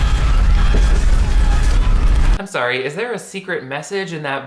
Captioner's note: car alarm blares